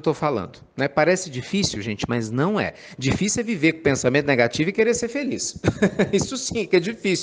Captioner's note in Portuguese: Risadas